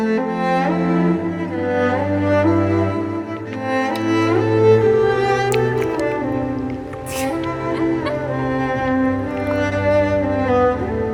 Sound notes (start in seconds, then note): 3.5 kiss followed by lip licking